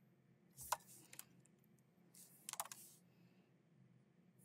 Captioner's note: keyboard clacking